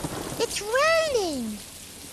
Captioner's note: thunder